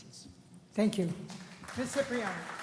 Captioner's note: applause